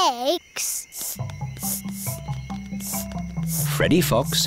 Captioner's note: sniffing